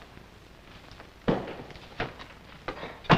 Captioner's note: door shuts